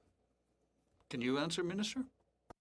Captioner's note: speaking French